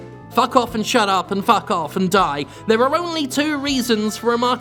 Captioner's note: none